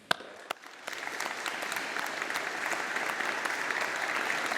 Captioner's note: audience applauding